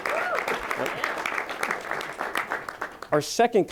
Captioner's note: applause